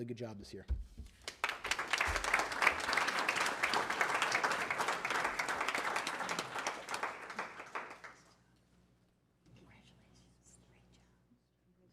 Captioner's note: applause